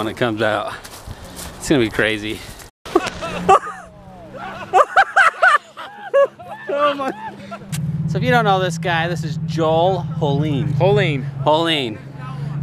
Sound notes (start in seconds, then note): 4.3 laughter